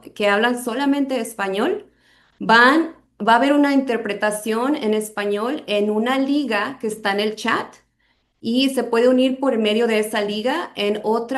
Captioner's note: speaking spanish